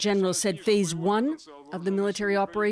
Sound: speaking Foreign Language

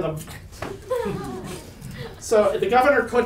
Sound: audience laughs

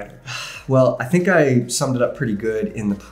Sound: sighs

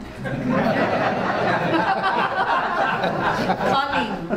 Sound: audience laughs

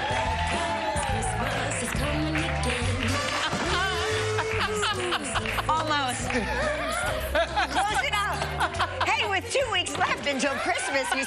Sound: cheers and applause

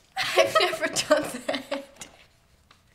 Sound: laughs

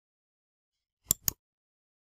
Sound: click

